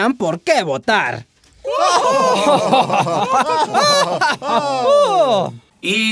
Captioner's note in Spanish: Ríen conjuntamente